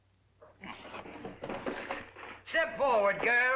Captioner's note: sound of rummaging